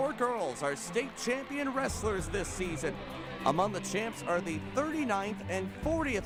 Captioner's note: cheering